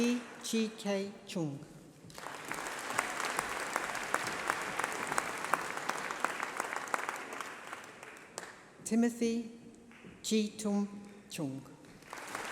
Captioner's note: applause